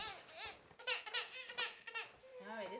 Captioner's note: baby crying